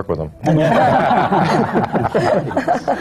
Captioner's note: laughter